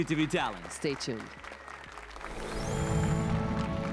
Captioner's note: applause and cheers